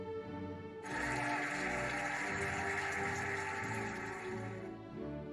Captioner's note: cheering and applauding